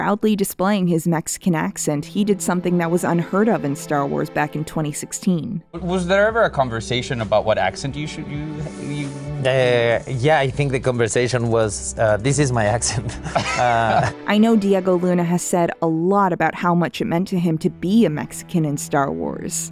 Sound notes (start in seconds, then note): 12.8 laughter